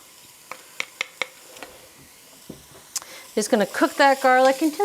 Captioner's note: spoon thumping